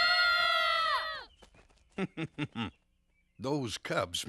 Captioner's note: screaming